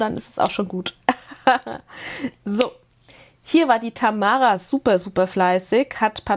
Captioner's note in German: Gelächter